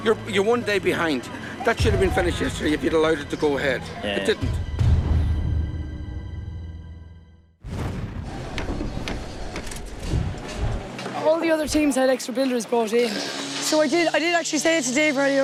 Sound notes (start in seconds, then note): 5.5 tense music; 7.7 building noises